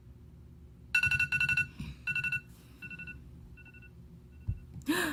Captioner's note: alarm ringing; gasps